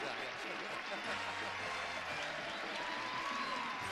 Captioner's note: audience cheering; audience applauding